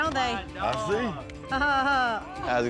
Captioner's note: laughter